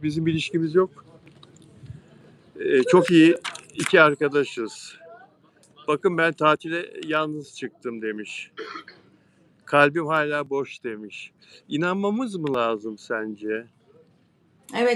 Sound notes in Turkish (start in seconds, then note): 8.6 boğazını temizler